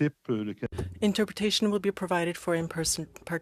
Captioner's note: speaking french